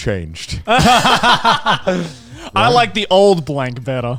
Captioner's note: all laughing